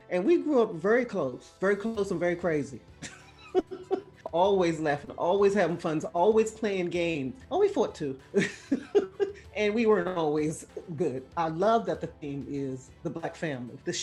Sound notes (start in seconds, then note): 8.4 laughing